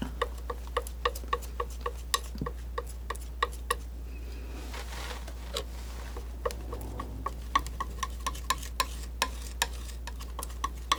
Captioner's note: scratching